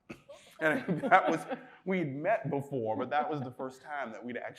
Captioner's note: chuckles